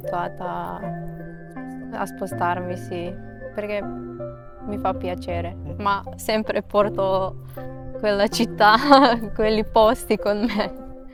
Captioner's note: laughs